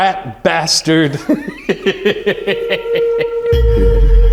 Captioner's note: laughs